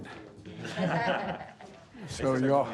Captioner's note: laughter